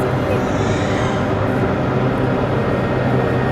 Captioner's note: baby crying